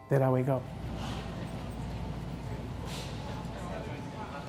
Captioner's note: crowd chattering